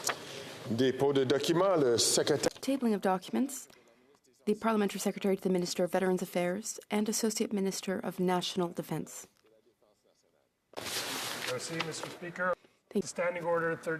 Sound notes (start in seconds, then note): 4.7 speaking French